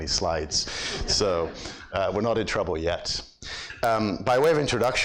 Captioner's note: audience laughs